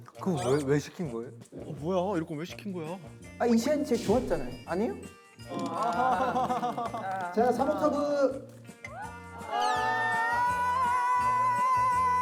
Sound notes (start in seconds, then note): 5.4 they clap reluctantly; 10.6 cheering